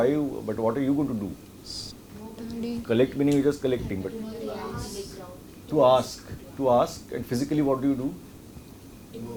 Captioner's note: students discussing